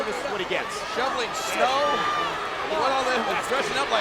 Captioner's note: presenter speaking faintly off mic